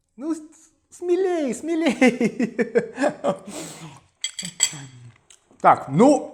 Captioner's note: laughs